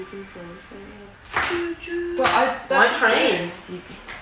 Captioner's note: imitates choo choo train